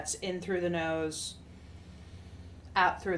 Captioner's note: inhales